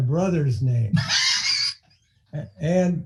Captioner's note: laughing